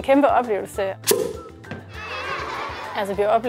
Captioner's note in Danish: Børn griner